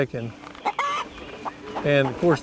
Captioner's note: chicken clucking